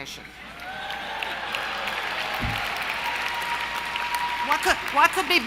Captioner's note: applause & cheering